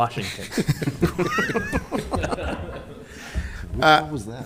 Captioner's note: all laughing